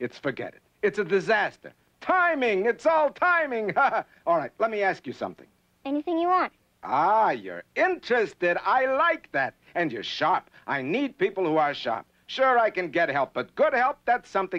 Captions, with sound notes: It's a disaster. Timing! It's all timing! (laughs) All right, let me ask you something. - Anything you want. - Ah, you're interested. I like that. And you're sharp. I need people who are sharp. Sure, I can get help. But good help? That's something else again.